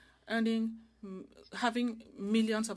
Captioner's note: speaking French